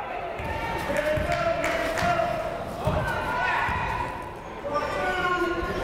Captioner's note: people shouting in the crowd